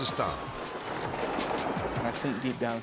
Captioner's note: tire whirring